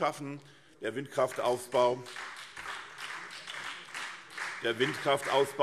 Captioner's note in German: Beifall SPD